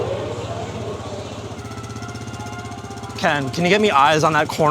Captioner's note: engine purrs